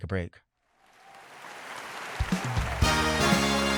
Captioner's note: audience applauding; upbeat music